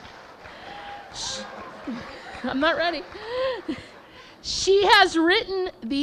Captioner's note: laughing